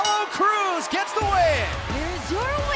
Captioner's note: bell